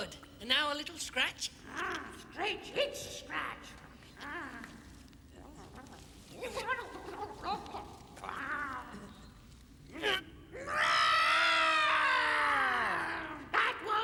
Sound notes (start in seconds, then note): 6.3 giggling; 10.5 screaming